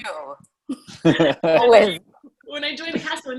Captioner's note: all laugh